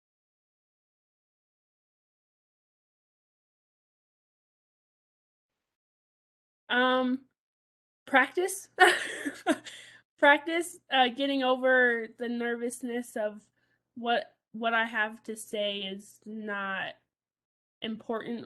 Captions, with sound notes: - Practice. (laughs) Practice getting over the nervousness of what I have to say is not important